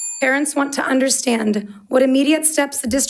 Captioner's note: bell dinging